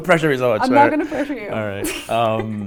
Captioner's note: laughs